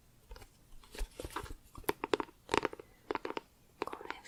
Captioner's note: tapping on plastic